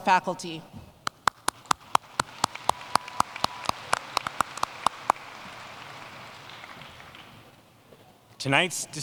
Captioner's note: applause